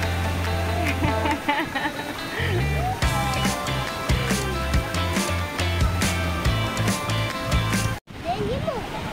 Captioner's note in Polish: Aplauz